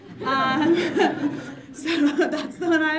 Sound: audience laughs

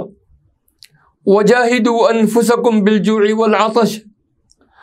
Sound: arabic

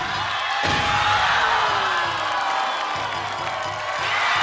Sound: cheers and applause

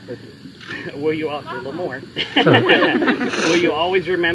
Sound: laughter

